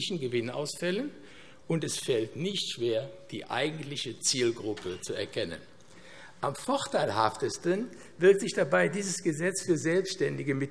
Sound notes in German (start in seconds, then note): none